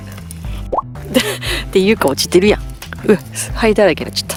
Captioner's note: laughter